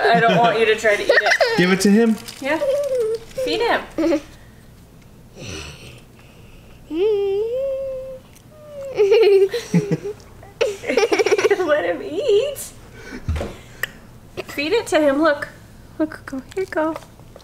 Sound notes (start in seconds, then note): 2.4 giggling; 8.6 giggling